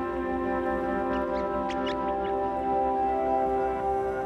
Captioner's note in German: Vogelzwitschern